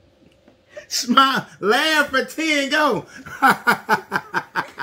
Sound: laughs

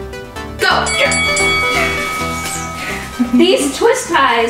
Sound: bell rings

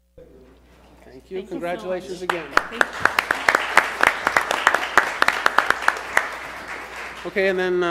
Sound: applause

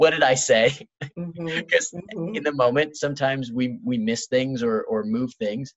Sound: laughs

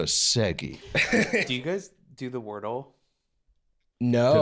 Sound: laughing

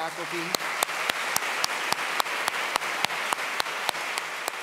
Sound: audience claps

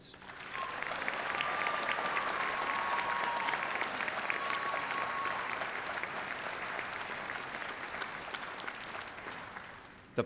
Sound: applause

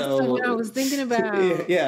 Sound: laughing

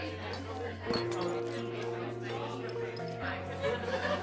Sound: party goers murmuring

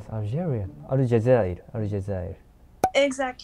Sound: Arabic

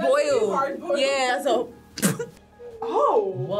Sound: laughs

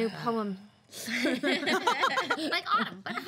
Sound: girls laughing

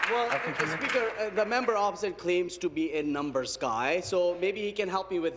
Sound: applause

